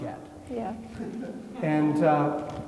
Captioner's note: attendees laughing